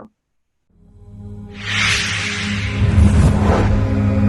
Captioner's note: whooshing sound